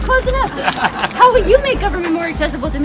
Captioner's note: laughs